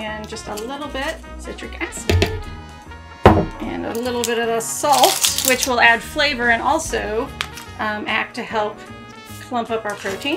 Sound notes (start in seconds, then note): 1.9 container tapping; 2.0 spoon tapping; 4.8 spoons rattling